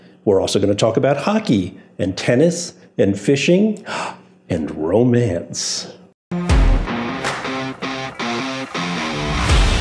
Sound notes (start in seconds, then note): 4.0 gasps; 6.3 upbeat music